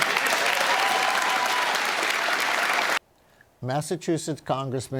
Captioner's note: applause